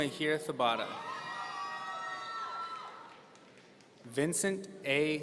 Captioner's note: audience cheering